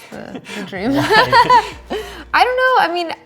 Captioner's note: laughing